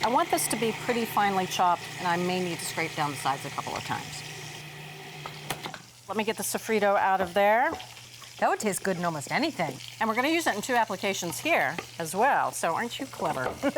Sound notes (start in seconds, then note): 4.4 processor whirring